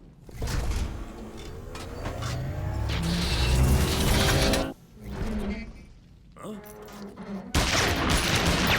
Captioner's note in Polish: klang i wyrczynie ôd maszineryje